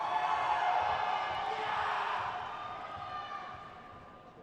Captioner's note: crowd cheers